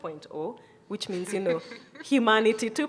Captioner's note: panelists chuckle